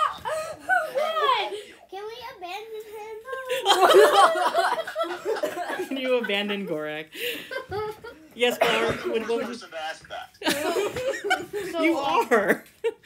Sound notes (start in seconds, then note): 3.5 laughter